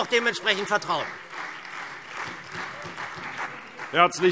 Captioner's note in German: Beifall SPD und Freie Demokraten